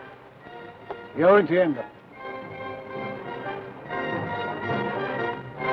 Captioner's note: speaks foreign language